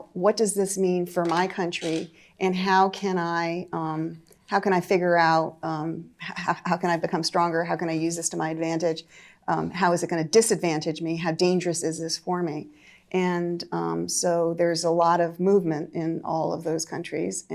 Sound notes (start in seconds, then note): none